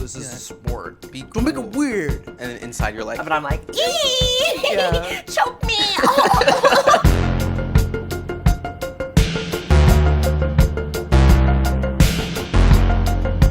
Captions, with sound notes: This is a sport. - Be cool. - Don't make it weird. - And inside you're like... - Yeah, but I'm like, Ee! Choke me! (gags) (theme music)